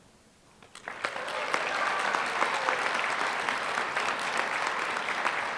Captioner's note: applause